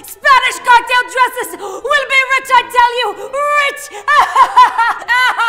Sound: laughing

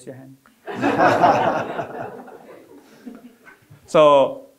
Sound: audience laughing

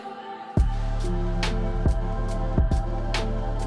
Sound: none

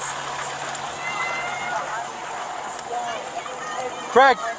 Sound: hollering

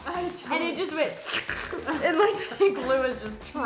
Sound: mimics crackling

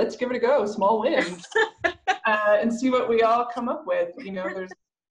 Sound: laughter

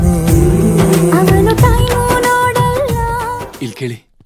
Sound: snaps finger

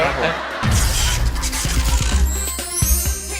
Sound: short circuit sound

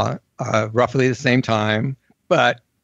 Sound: none

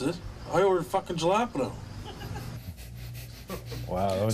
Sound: laughter

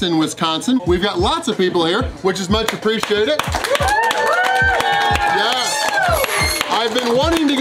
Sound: crowd cheering

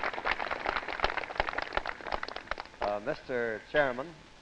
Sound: applause

